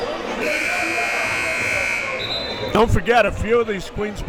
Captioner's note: timer buzzes